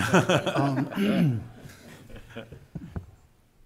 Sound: laughing

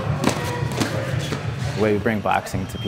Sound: gloves smacking

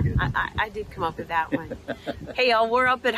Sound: laughs

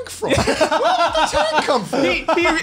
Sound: laughs

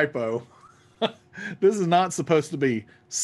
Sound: laughs

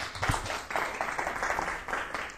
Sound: applause

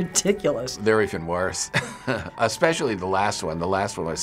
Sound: laughing

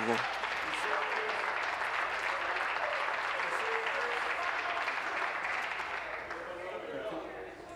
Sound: applause

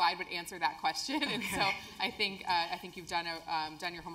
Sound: laugh

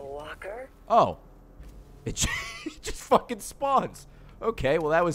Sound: laughs

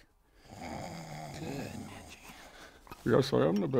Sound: snore

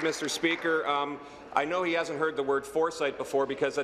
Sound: applause

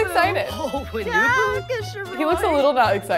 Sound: Sims speaking Simlish

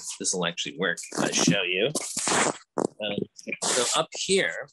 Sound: camera clunking

